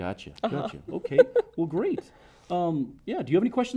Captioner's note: laughs